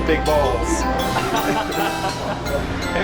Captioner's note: laughter